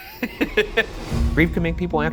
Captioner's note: laughing